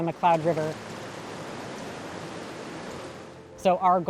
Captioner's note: rushing water